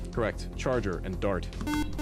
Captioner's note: beep